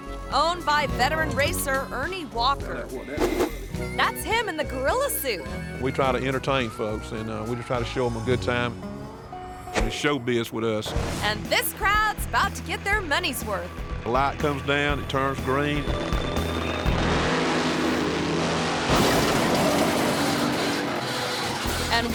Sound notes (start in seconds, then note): 14.9 engine rumbling; 18.8 car clanks